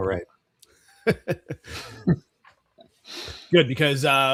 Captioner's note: laughs